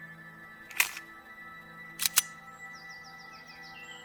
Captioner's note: pistol cocking